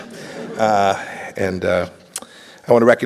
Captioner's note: laughter